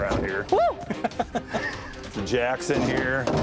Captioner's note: laugh